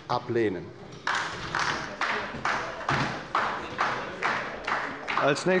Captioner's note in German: Beifall bei der LINKEN